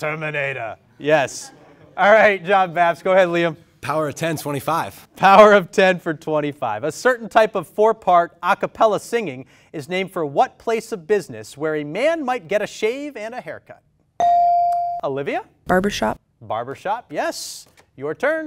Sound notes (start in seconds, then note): 14.2 ding